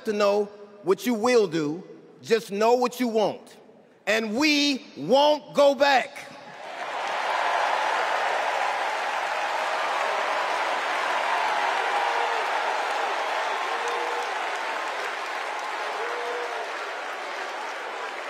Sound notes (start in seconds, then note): 6.5 cheers and applause